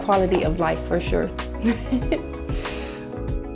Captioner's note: laughs; lively music